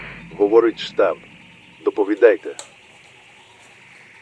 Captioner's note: radio